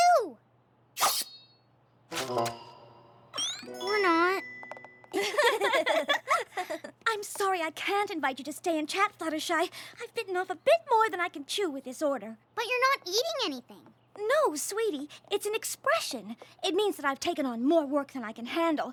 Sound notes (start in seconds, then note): 1.0 shing!; 5.1 both laugh